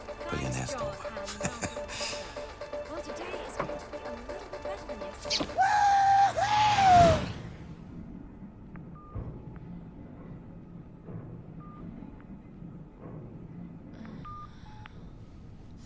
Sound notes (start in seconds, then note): 0.5 chuckles; 8.6 phone beeping; 14.1 groans